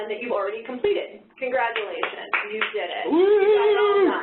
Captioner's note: applauding